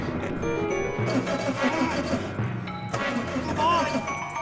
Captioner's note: engine chugging